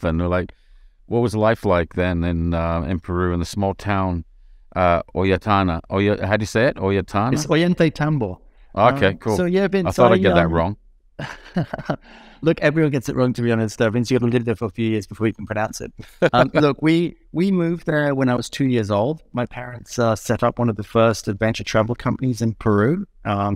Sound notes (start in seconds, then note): 11.2 laughing; 16.0 laughing